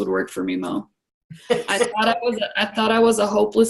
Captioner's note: laughs